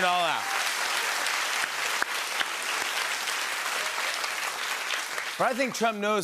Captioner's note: applause